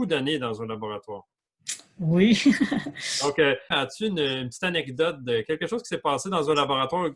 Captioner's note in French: rires